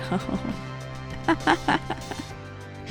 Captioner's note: laughing